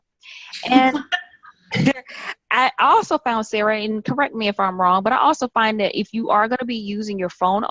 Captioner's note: chuckles